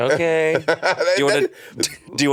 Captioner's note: crew laughing; Monét laughing